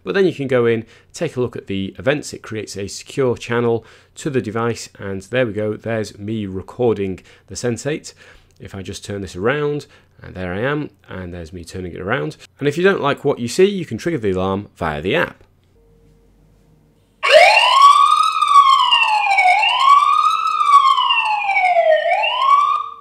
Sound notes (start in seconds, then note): 17.2 alarm noise